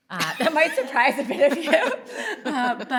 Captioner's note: laughing